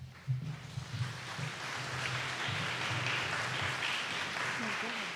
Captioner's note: audience applauding